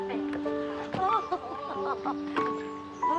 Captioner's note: laughing